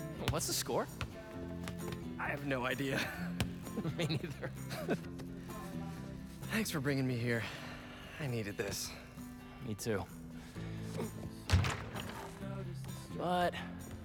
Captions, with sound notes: What’s the score? (laughing) I have no idea. (laughing) Me neither. Thanks for bringin’ me here. I needed this. Me too. But...